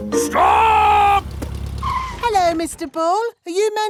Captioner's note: brakes squeal